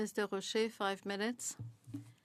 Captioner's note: speaking French